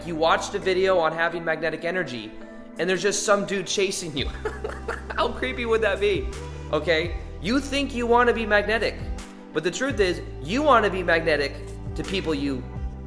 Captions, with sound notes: you watched a video on having magnetic energy, and there's just some dude chasing you. (laughing) How creepy would that be, okay? You think you want to be magnetic, but the truth is you want to be magnetic to people you,